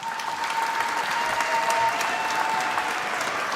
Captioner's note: applause